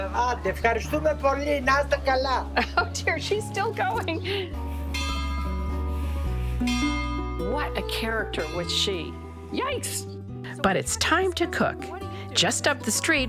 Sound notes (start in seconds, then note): 0.1 speaking in Greek; 4.9 bells chiming